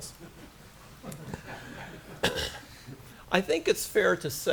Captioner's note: laughter